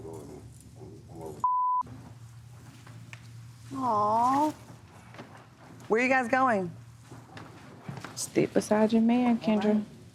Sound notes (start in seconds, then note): 1.4 beep